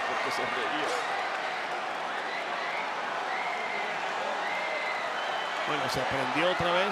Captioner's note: applause